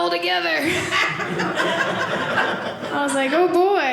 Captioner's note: audience laughing